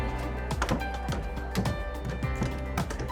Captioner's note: slapping